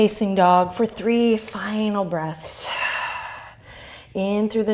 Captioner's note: deep breath